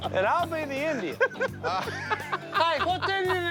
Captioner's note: laughs